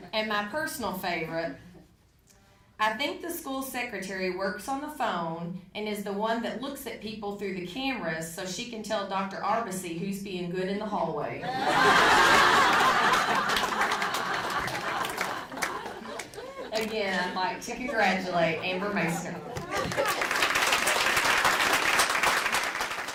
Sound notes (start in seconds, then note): 11.5 audience laughing; 19.4 audience applauding